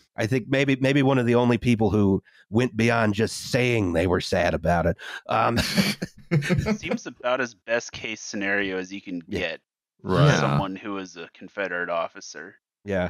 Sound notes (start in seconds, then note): 5.4 laughter